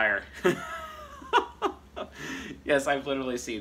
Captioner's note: laughing